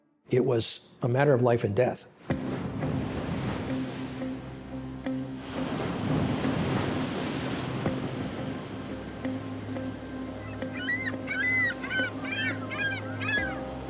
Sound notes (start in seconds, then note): 2.4 waves breaking, ominous music; 10.4 ring-billed gull makes high-pitched squeals